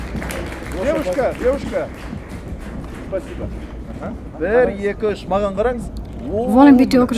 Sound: speaking in Russian

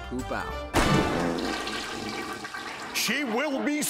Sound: toilet flushing

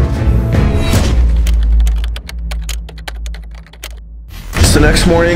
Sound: ominous music playing; keyboard clicking

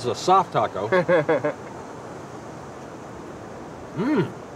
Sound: laughing

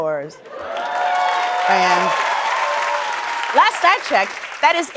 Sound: cheers and applause

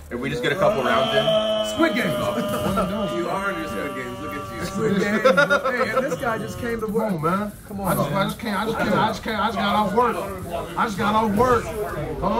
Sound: laugh

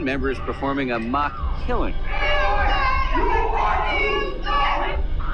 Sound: indistinct shouting

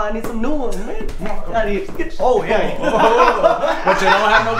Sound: laughing

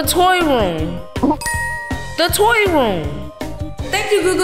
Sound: bell dinging

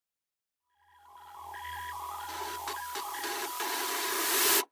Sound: digital noises

